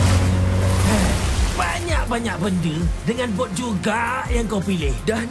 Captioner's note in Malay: mengeluh